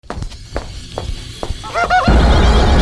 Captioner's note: ominous music; feet clopping; man laughing maniacally